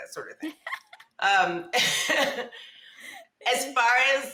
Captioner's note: women laughing